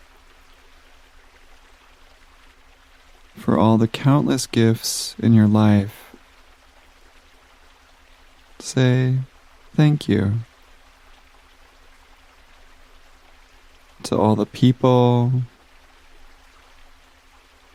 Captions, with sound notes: (water gushing) for all the countless gifts in your life, say thank you. (water gushing) To all the people,